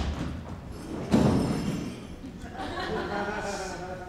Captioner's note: object thuds; audience laughs